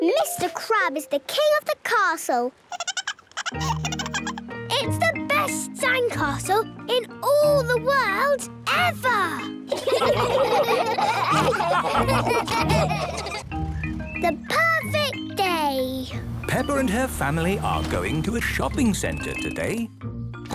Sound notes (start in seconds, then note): 2.7 giggling; 9.7 all laughing